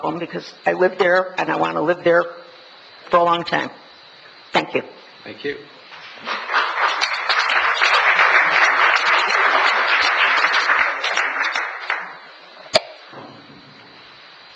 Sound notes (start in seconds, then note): 6.0 audience applauds